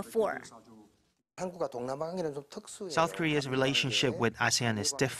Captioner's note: Korean